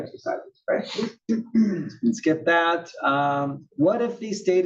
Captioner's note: cough